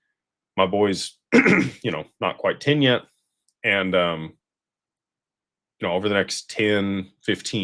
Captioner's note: clears throat